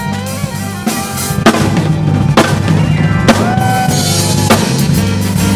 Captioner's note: audience cheering